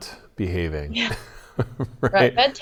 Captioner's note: laughs